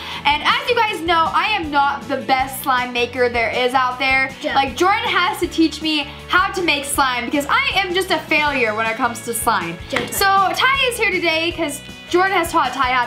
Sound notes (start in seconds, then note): 9.8 claps hands